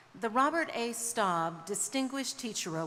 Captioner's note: none